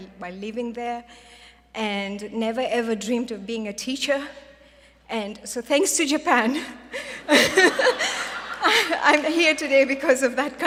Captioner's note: laughter